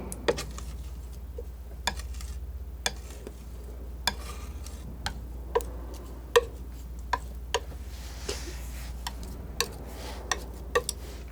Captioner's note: tapping